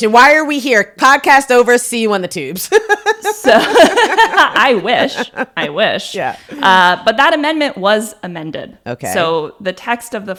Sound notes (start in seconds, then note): 2.6 laugh; 2.6 laughs